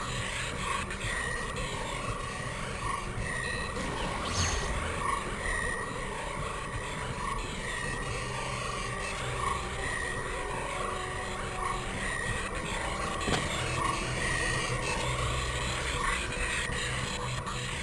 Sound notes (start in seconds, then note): 2.0 explosion